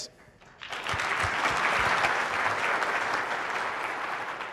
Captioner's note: audience claps